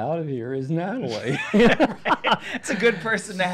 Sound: both laughing

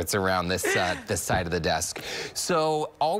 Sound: laughter

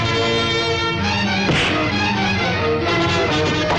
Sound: thwacking

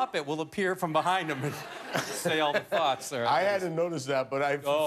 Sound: laughter

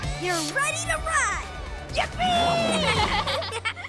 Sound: cheering, laughing

